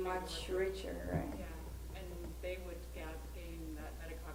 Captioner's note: voiceover